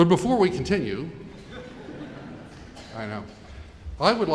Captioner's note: audience chuckling